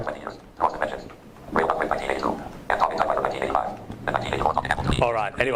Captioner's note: rapid robotic speaking